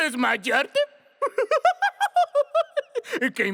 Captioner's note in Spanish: Burlándose